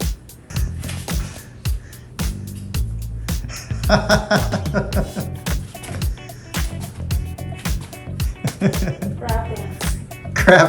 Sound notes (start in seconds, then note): 3.8 laughing